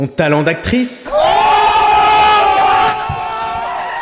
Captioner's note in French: Acclamations